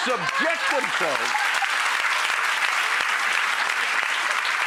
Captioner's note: audience applause